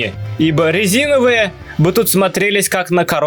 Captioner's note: none